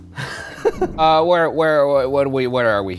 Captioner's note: laughing